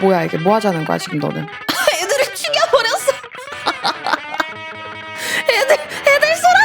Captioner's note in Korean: 웃음